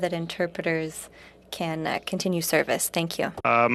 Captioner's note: speaking French